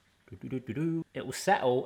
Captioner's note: humming